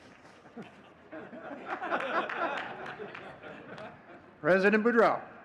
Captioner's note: all laughing